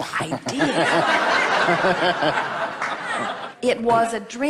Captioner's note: audience laughs